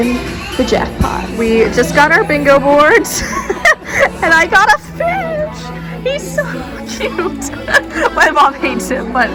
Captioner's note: laughing